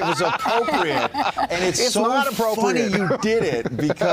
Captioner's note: laughter